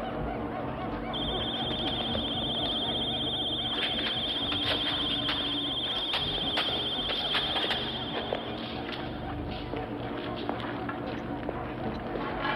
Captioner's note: ringing